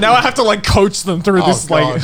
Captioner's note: laughing